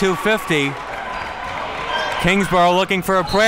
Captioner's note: crowd cheering